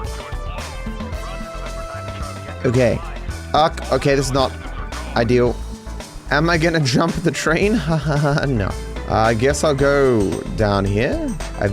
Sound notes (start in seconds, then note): 7.6 laughs sarcastically